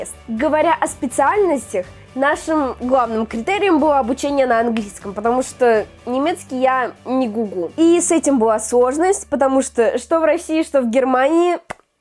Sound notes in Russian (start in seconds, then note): none